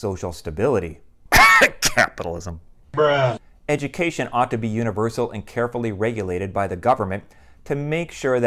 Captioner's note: cough